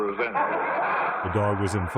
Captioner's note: laughter